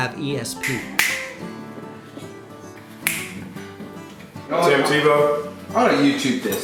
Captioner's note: fingers snapping